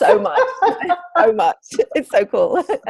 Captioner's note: laughs